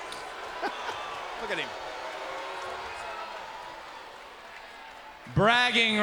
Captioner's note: laughs; crowd cheering